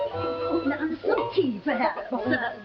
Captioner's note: women stammering